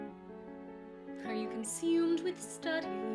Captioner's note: none